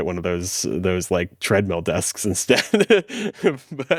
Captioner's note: laughs